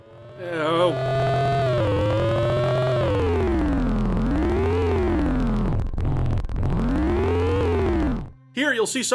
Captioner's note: ear-splitting car noise